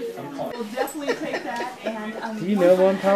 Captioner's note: laughing